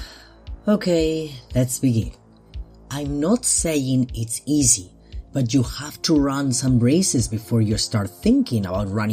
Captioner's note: sigh